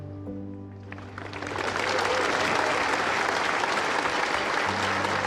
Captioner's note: audience applauding